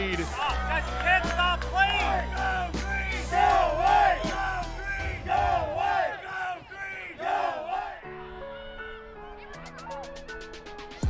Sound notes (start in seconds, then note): 2.4 supporters chanting; 9.5 hip hop music